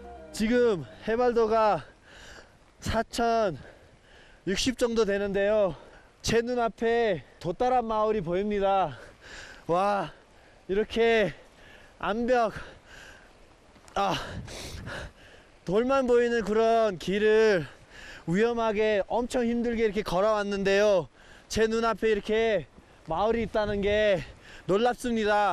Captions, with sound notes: We're at about 13,300 feet above sea level right now I can see the village of Do Tarap ahead of me These rock walls (So out of breath) All I see are rock walls, and I've been walking tirelessly I'm amazed that I can see the village in front of my eyes now